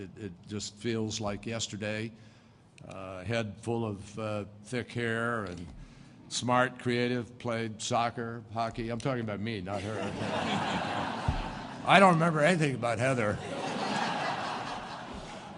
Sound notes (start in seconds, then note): 9.7 laughter; 13.3 laughter